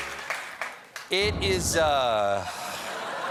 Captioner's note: applause; piano riff; laughter